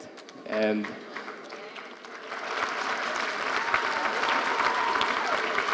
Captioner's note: audience cheering and applauding